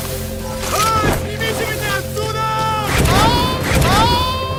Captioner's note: سربازی به زمان فرانسوی صحبت می کنه